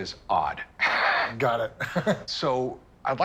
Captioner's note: laughs